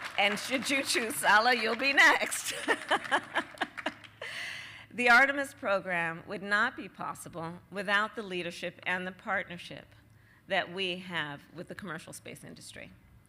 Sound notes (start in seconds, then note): 0.0 applause; 2.5 laughs